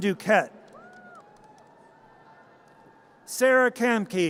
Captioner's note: audience cheers